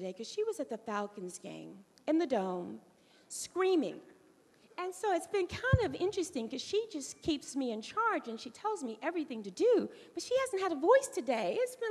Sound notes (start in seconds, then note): none